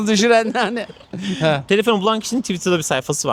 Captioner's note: laughs